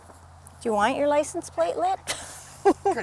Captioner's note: laughs